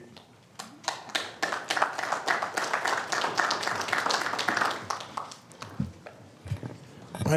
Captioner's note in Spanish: Aplausos